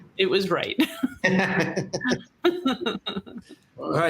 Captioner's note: chuckling